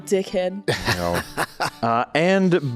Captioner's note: chuckles